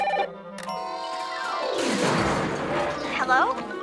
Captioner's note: crashing